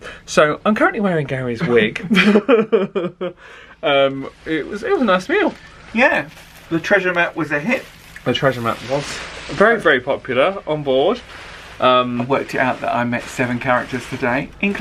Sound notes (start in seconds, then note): 1.6 chuckling